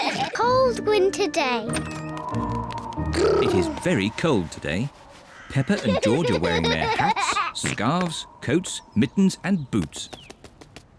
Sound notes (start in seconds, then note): 1.9 wind whistles